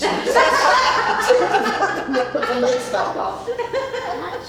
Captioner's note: laughing